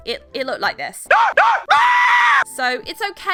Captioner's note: scream